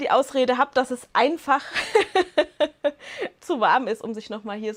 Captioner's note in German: Lachen